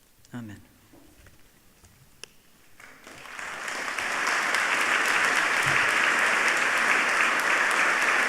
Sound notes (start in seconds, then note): 2.7 audience applauding